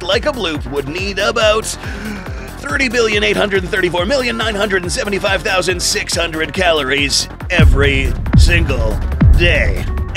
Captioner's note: deep breath